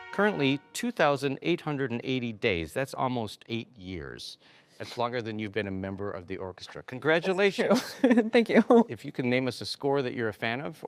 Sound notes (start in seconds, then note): 7.9 laughing